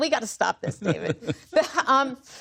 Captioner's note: laughter